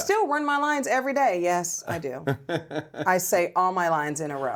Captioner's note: laughs